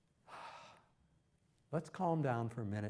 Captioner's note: exhales